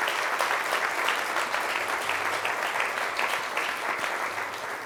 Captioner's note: crowd applauds